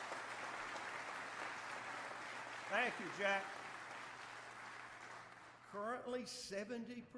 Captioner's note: applause